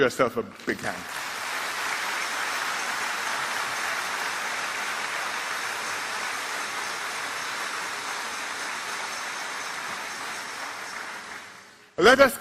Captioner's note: applause